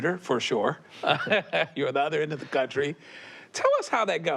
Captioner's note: Pete laughs